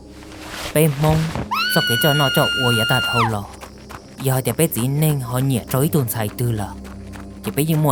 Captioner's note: screaming